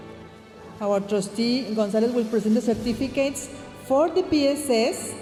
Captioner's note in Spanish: hablando en inglés